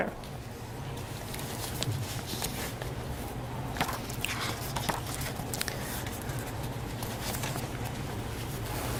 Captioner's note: sound of pages turning